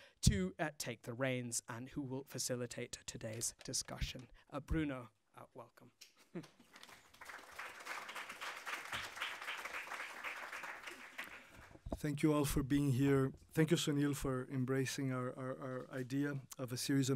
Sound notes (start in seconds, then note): 6.5 applause